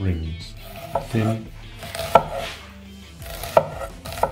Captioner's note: knife chopping